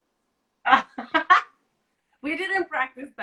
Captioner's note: laughs